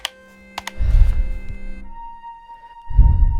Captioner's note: mr. constantine breathes